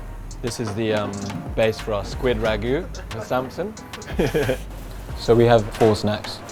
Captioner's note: laughs